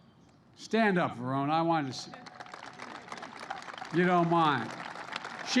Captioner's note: applause